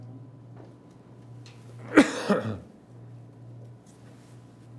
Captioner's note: coughing